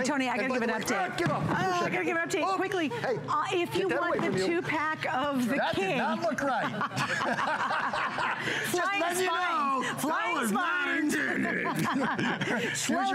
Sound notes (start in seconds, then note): 6.4 laughter; 11.3 laughter